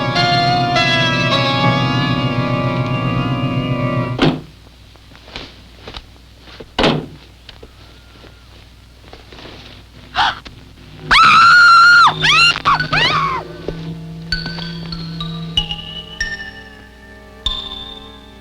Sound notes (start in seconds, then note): 10.1 gasping; 11.0 screaming; 14.5 ominous music